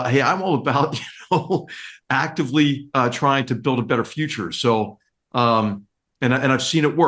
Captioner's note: laugh